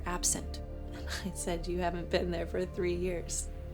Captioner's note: chuckles